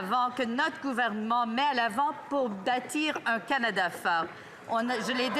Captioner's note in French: voix de l'interprète